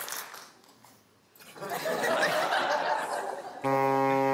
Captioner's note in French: rires